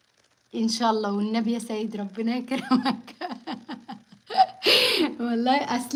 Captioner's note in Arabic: ضحك